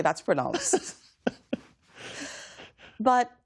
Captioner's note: laughter